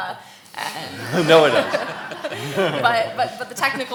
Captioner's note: laughing